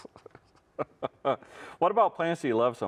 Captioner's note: chuckles